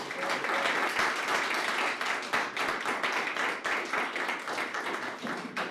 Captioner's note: papers rustling, applause